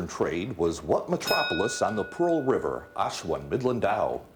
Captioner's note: bell dinging